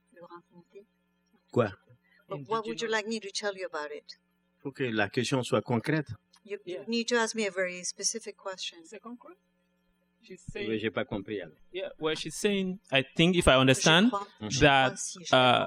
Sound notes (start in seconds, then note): 5.4 speaking french; 11.0 speaking french